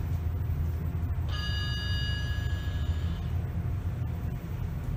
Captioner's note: ding